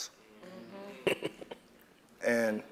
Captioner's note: laugh